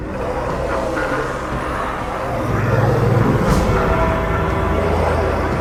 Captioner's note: Count Magnus laughs; demon roars